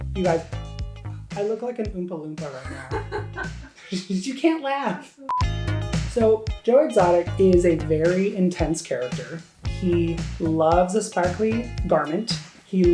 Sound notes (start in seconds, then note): 2.6 producer laughing; 5.3 beeps